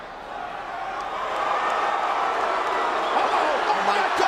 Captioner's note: crowd cheering